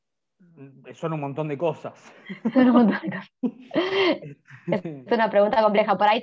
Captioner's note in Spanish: Ríe